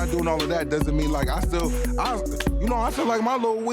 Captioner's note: claps hands